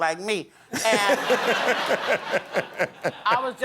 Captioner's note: laughter